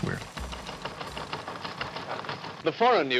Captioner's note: teletype machine rattling